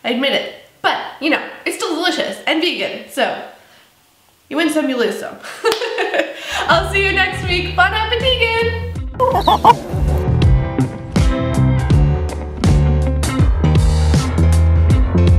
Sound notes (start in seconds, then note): 6.1 laughs; 10.2 slow rock music